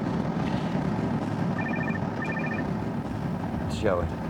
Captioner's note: phone ringing